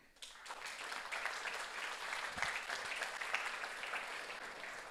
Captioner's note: audience applauds